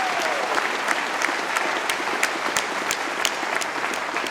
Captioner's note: applause